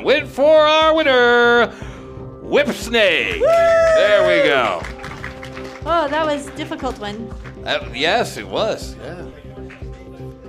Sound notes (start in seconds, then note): 3.3 clapping; 3.3 cheering